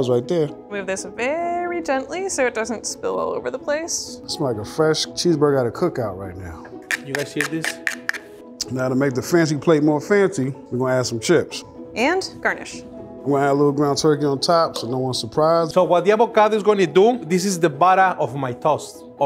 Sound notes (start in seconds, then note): 6.8 chips clicking